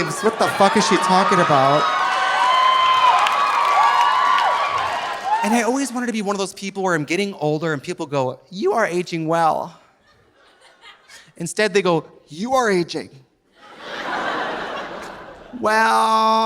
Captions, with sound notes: "What the fuck is she talking about?" (audience cheering) (audience applauding) And I always wanted to be one of those people where I'm getting older and people go, "You are aging well." (audience laughing softly) Instead they go, "You are aging. (audience laughing) "Well."